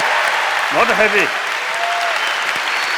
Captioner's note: applause